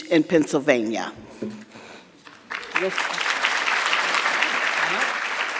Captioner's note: audience clapping